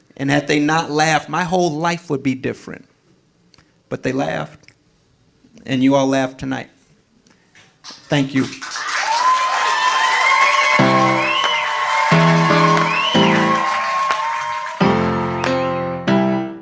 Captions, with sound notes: Had they not laughed my whole life would be different, but they laughed. And you all laughed tonight, thank you. (audience cheering) (upbeat music) (audience cheering)